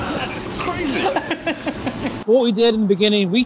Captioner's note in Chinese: 笑声